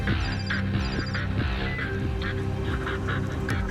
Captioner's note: beep